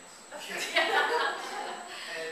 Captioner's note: audience Laughter